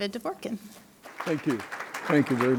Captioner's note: applause